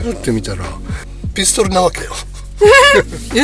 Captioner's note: laughs